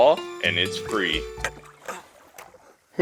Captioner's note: tired grunting